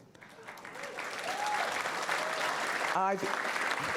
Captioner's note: audience applause